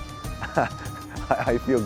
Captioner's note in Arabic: ضحك